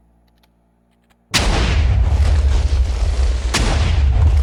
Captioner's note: explosion sounds